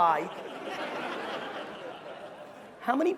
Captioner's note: crowd laughing